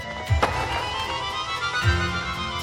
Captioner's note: wings flapping; eerie and tense orchestral music